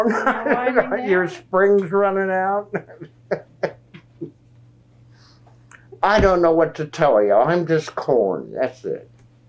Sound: laughs

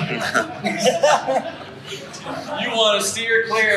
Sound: crowd laughs

